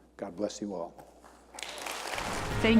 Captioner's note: applause